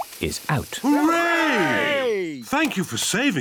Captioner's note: cheering